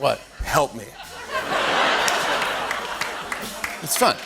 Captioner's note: laughter